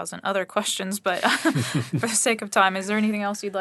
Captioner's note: chuckles; laughing